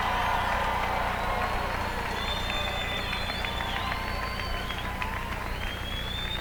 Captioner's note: applause